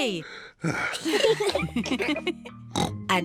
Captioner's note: sighs; all laugh; oinks